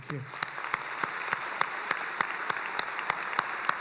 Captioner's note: applauding